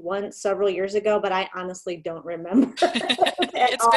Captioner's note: laughter